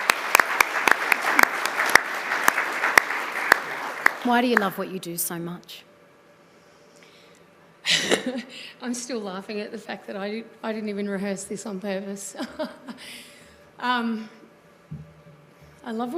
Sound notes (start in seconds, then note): 2.8 applause